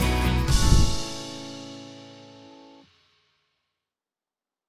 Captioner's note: graphics whooshing